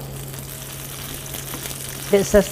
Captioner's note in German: Blubbern